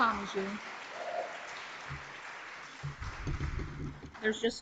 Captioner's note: audience applauds